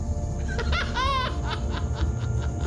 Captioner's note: laughter of madness